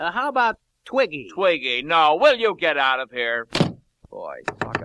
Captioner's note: door slams; knock knock knock